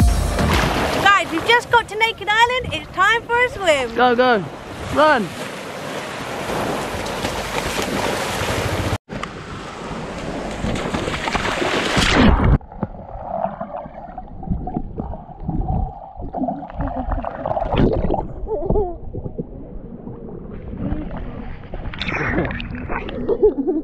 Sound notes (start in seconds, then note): 5.9 sound of sea